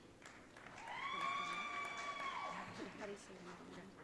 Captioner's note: audience cheering